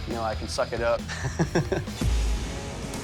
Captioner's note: chuckles